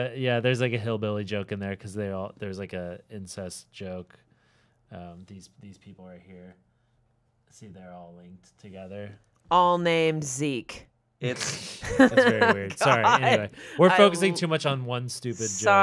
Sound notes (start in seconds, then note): 11.3 laughing